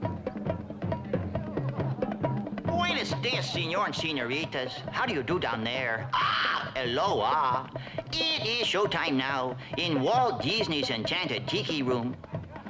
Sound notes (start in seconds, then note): 0.2 drums; 6.3 squawks